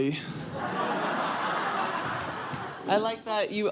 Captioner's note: crowd laughing